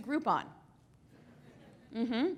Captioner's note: laughter